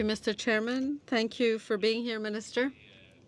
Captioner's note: speaking French